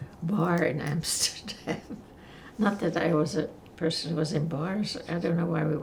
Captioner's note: laughing